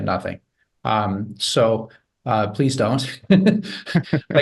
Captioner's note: chuckles; chuckles softly